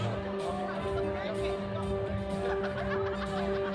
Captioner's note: indistinct chatter and room noise